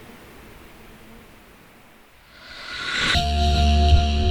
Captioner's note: the swarm and undulating noise fade